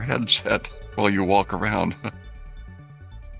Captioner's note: chuckling